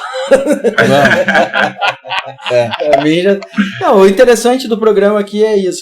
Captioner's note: laughs